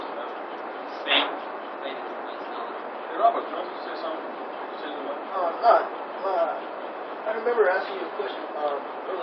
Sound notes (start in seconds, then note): 0.9 konuşmalar